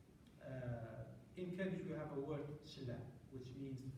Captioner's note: non-english